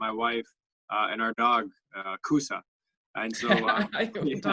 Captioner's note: laughter